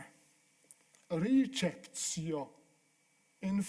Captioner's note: speaking italian